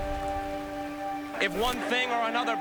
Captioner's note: crowd cheering